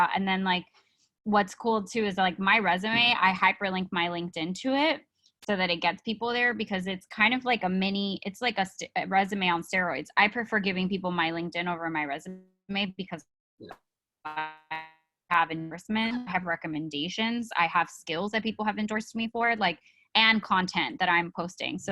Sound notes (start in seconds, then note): 12.8 speaking faintly